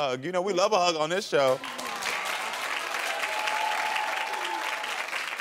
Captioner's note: audience cheering